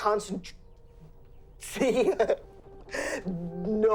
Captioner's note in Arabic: يضحك